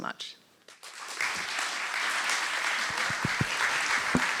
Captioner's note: applause